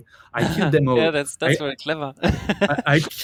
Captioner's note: laughs